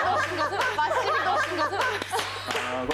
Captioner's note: burst out in laughter